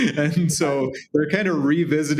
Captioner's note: laughs